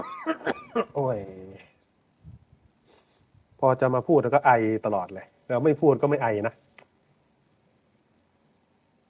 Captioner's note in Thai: เสียงหัวเราะ